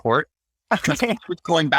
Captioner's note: laughs